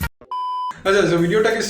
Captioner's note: beep